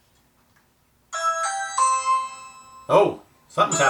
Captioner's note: ringing